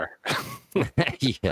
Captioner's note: laughs